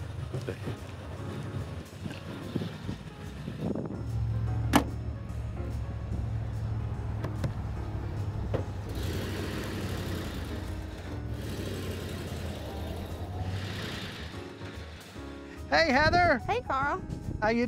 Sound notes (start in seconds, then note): 0.1 soft piano music; 9.0 car revs